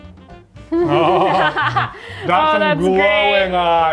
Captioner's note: laughing